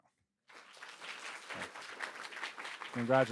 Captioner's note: audience applauding